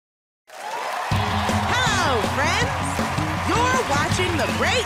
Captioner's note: cheers and applause